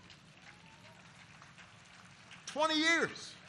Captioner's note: applause